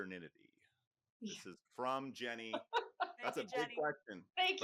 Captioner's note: laughs